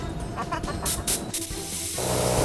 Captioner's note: laughing; hissing